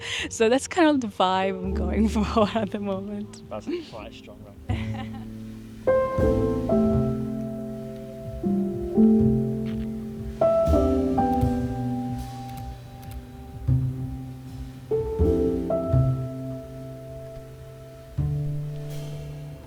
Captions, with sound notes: So that's kind of the vibe I'm going for at the moment. That's quite a strong run. (laughing) (soft music)